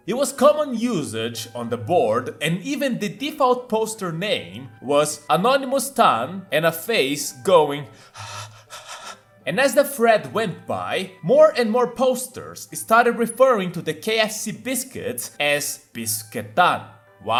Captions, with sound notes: It was common usage on the board and even the default poster name was Anonymous-tan and a face going *pant* *pant* And as the thread went by, more and more posters started referring to the KFC biscuits as "Bisuke-tan"